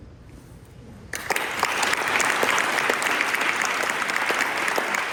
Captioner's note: applause